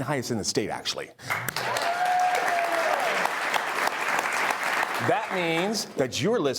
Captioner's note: audience applauding